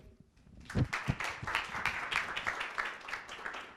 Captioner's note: applause